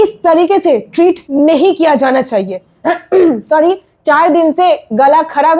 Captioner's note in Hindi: गला साफ़ करने की आवाज़